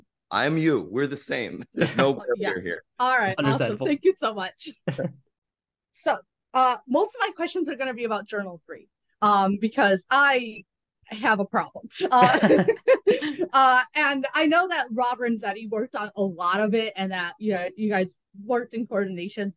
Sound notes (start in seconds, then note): 12.1 laughing